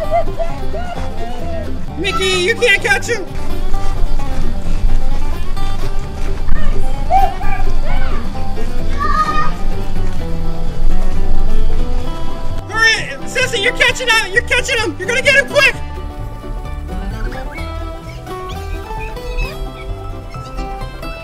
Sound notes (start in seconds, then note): 4.3 lively banjo music; 7.0 shouting; 17.4 lively banjo music